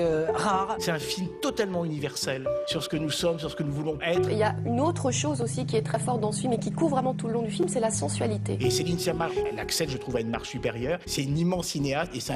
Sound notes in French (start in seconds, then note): 8.4 Voix off